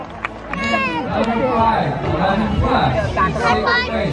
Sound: crowd applauding; clapping

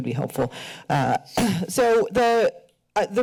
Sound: clears throat

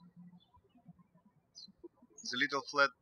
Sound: birds chirping

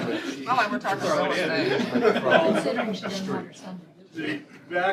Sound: laughter

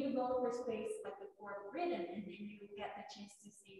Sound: speaks faintly

